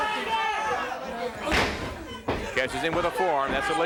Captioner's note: blows thudding